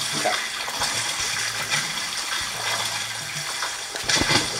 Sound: water splashing

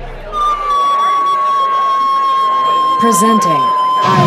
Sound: screams

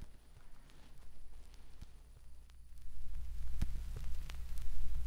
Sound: vinyl record crackling

